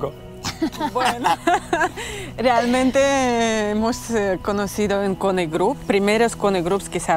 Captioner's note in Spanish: Risas